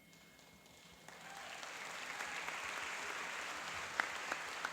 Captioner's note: applauding and cheering